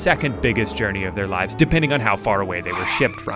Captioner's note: airplane whirring